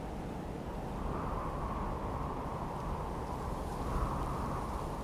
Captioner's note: wind howling